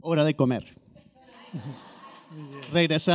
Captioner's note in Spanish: risotada